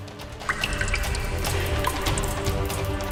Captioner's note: drip-drip-drip